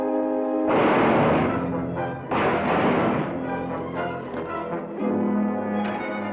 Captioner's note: electrical blasting; suspenseful music